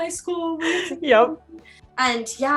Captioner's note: murmurs